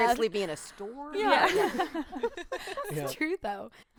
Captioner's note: group laughing